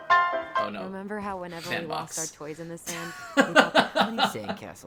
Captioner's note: laughs